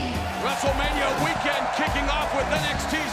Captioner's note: crowd cheering